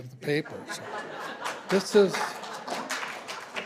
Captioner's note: laughter